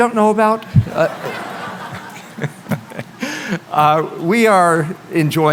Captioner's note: laughter